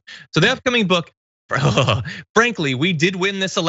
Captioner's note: laugh